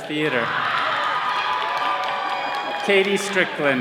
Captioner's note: all cheering